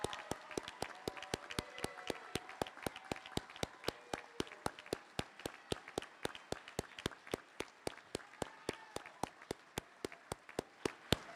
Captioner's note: applause